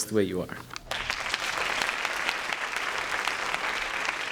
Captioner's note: applause